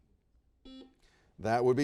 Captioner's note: buzzer beeps